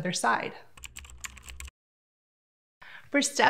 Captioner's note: typing